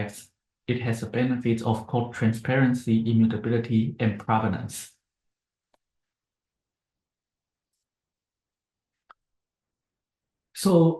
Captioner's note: pause